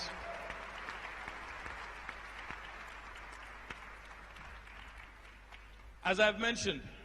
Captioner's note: applause